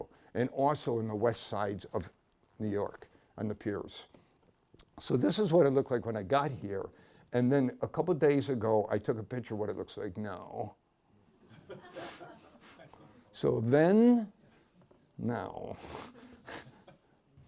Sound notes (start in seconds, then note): 11.4 laughter